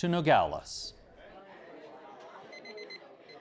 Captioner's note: children chattering; timer beeps